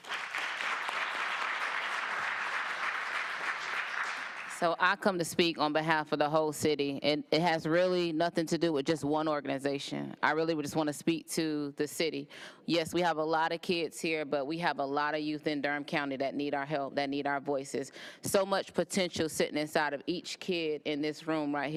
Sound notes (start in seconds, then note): 6.3 applause